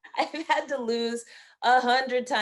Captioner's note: laughing